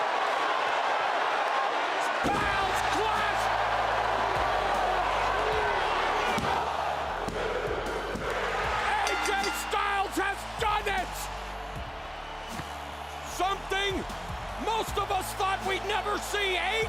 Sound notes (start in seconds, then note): 0.3 crowd cheers; 4.4 crowd cheers; 8.2 ref slams hand